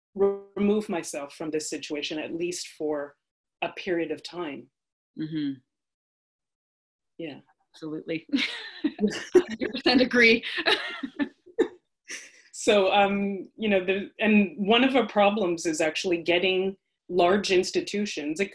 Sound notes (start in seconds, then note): 8.4 laughs